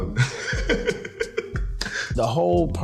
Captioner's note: laughs